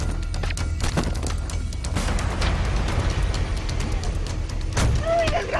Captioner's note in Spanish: Disparos